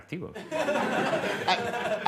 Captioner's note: laughter